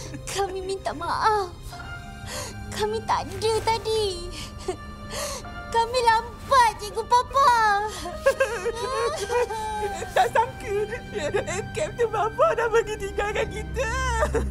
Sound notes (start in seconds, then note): 6.8 sobs